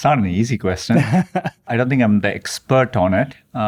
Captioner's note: laughing